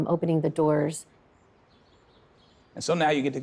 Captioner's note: birds singing